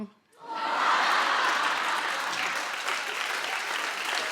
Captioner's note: crowd laughs